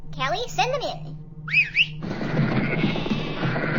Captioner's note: whistling